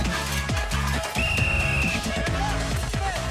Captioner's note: whistle blowing